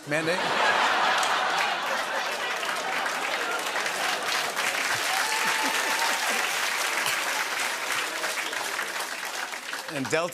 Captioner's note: laughter and applause